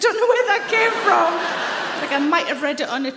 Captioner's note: audience laughs